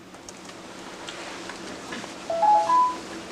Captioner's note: phone chimes